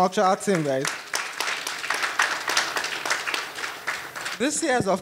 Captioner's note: audience applauding